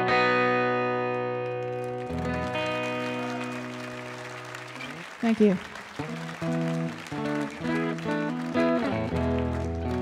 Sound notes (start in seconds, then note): 1.1 audience applauding and cheering; 5.9 light guitar music